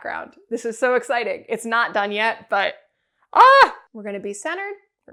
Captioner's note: excited shouting